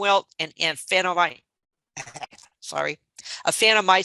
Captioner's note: laughing